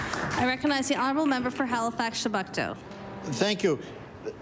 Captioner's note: applause